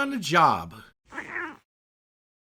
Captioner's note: meow!